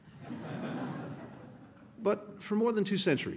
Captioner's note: laughter